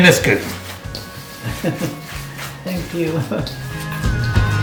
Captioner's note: giggles